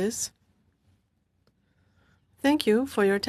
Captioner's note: speaking French